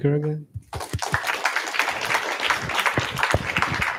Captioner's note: applause